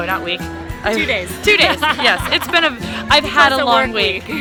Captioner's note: laughs